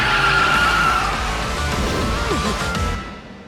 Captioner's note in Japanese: 叫び声